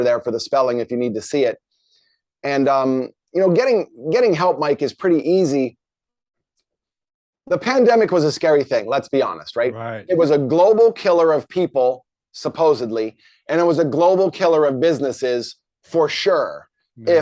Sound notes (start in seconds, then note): none